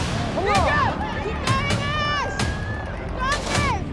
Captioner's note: crowd cheering